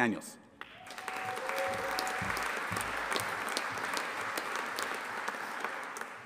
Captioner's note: audience applauding and cheering